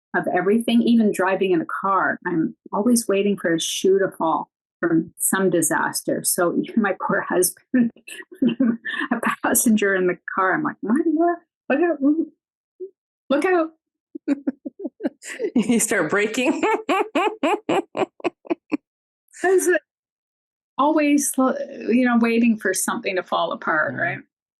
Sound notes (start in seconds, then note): 8.0 chuckles; 14.2 laughing